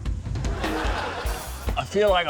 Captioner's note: laughter